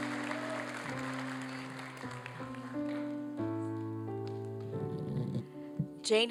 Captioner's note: applause